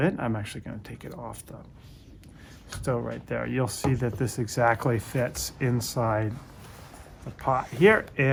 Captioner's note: none